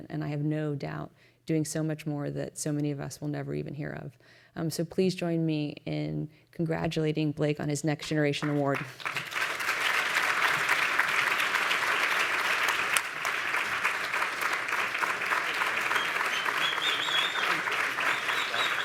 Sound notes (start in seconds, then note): 9.1 applause